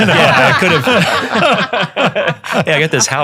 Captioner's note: panel laughing